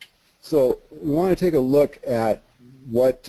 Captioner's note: voiceover